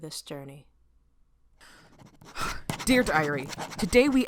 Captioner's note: SFX: sound of pen on paper